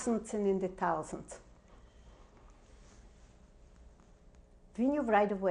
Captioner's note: pauses for 3 seconds